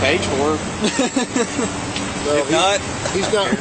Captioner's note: laughs